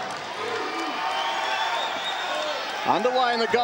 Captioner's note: crowd cheering